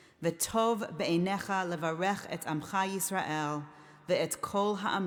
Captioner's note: speaking in foreign language